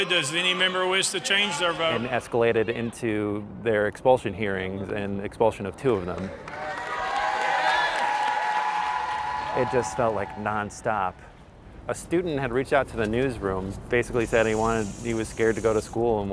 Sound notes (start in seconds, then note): 5.9 crowd cheering